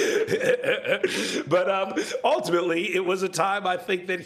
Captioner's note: laughter